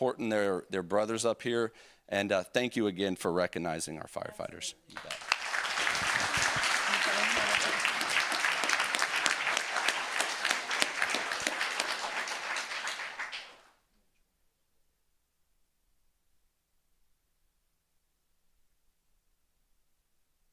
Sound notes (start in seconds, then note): 11.3 applause